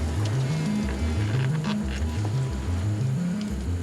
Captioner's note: cell phone buzzes